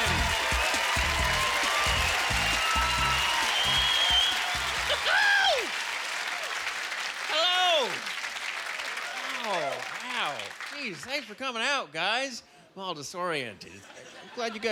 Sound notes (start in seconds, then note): 0.2 applause; 4.4 squawking